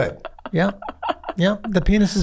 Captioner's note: laughs